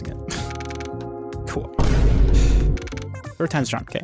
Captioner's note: sigh